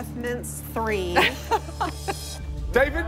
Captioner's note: laughs